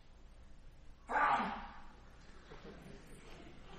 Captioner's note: sneezes; laughter